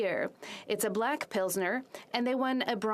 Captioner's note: speaking French